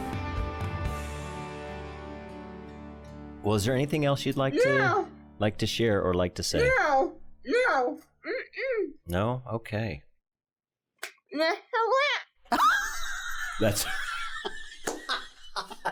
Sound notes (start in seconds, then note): 12.5 laughing